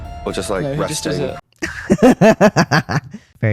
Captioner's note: laughter